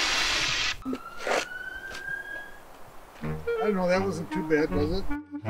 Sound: siren wails

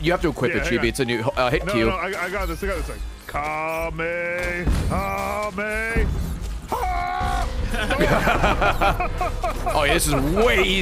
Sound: laughs

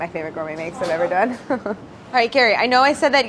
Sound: laughs

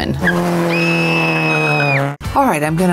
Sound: machine whistling

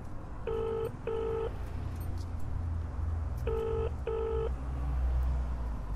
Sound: calling tone from phone

